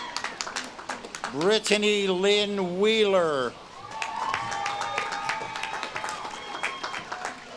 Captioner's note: audience claps and cheers